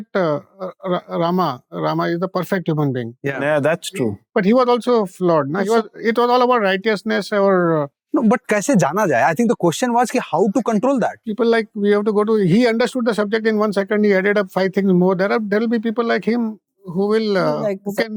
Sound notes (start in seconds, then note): 9.4 in English